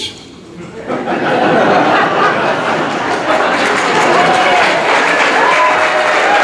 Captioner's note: audience laughing and applauding